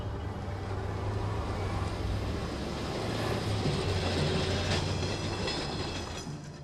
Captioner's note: streetcar passing